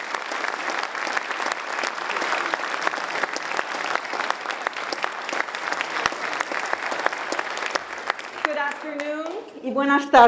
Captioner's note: applause